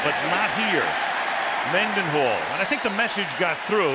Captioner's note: cheering